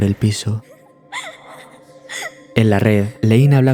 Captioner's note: laughs